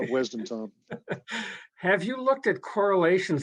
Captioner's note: chuckles